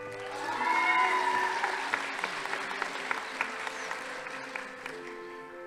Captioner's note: crowd cheering; audience applauding